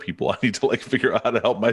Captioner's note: chuckles